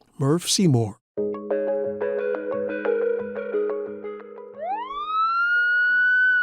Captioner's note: bright music; siren wailing